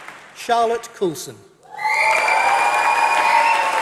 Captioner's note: applause